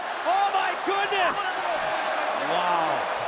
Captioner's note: crowd cheering